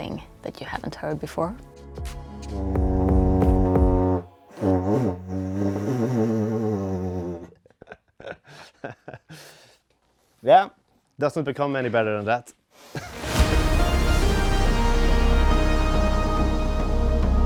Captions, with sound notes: that you haven't heard before. [laughs] Yeah, it doesn't become any better than that.